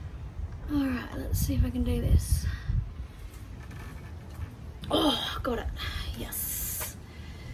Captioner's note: none